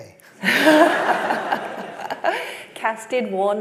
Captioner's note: laughter